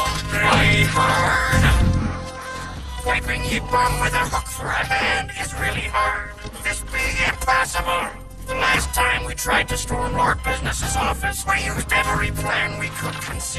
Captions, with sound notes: "Really hard"? [CROWD GASPS] Wiping ye bum with a hook for a hand is really hard. This be impossible. The last time we tried to storm Lord Business' office... ...we used every plan we could conceive.